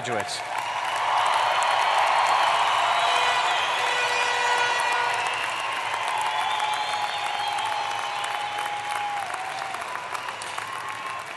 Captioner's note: applause